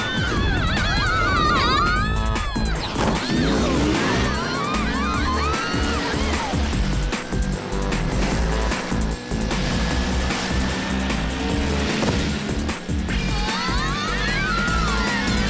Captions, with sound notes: My mother has a suit just like it. Pfft. Huh? [shrieks] [hip-hop music]